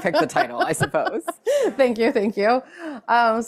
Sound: laughing

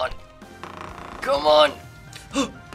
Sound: controller vibrating

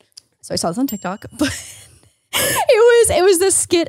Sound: laughs

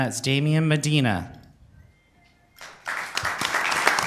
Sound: applause

